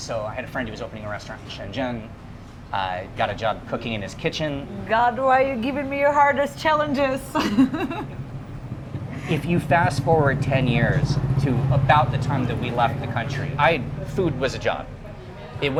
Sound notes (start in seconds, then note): 8.7 laughs